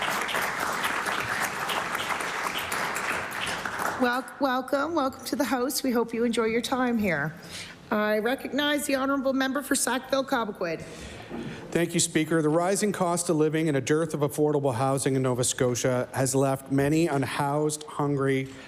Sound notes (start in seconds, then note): 3.8 applause